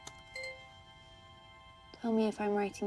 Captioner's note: laptop keyboard clicking; laptop chimes